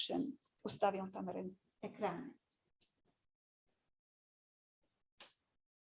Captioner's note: speaking in foreign language